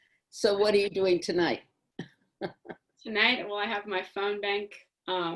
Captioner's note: laughs